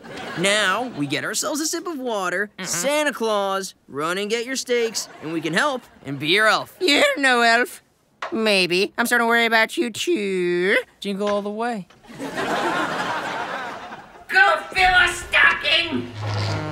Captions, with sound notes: Now, we get ourselves a sip of water, Santa Claus, run and get your steaks - and we can help and be your elf. - You ain't no elf! Maybe, I'm sorta worried about you too. Jingle all the way. [laughing] Go fill a stocking!